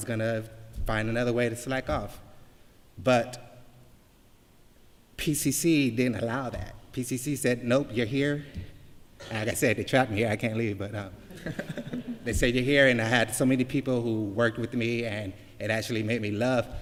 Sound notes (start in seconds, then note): 11.2 laughter